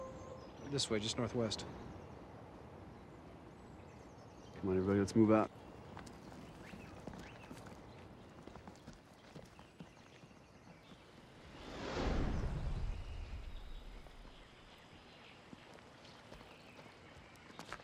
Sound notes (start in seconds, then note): 5.8 footstep; 12.7 bird chirp; 16.1 footstep